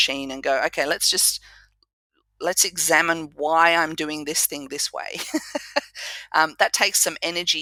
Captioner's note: laugh